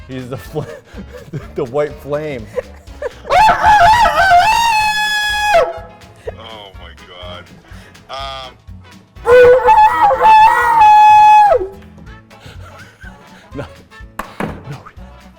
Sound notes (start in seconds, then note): 2.1 laughing; 3.2 imitating rooster crow; 9.2 imitating rooster crow